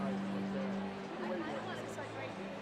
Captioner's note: background chatter